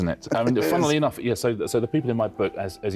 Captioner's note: chuckles